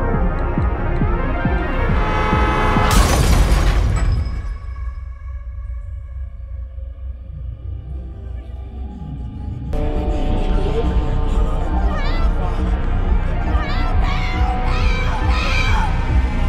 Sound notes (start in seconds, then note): 1.7 car honk; 2.8 crashing sound